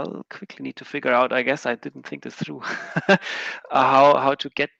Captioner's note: laughing